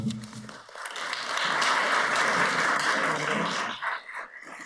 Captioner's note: audience applauds